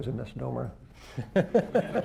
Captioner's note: laughter